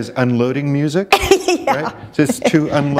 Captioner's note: laughter